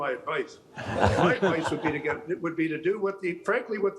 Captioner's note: all laughing